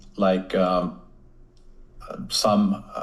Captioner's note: none